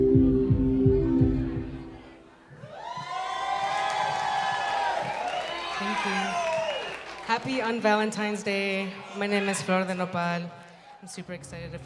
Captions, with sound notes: (crowd cheering) - Thank you. Happy on Valentine's day. My name is Flor de Nepal, and super excited